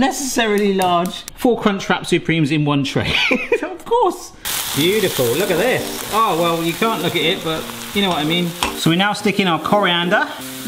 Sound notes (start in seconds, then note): 3.0 person laughing